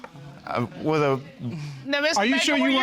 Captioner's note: stammers